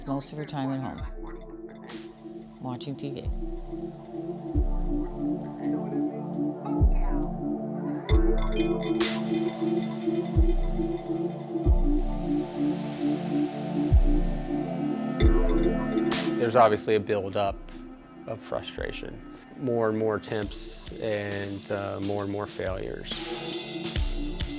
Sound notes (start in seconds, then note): 5.2 tv chatter